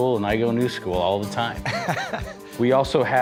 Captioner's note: laughing